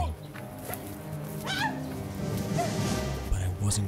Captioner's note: screaming